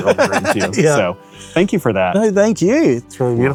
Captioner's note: laughs